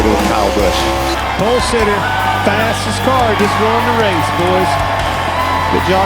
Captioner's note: crowd cheering